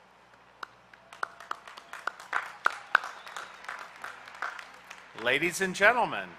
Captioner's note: applause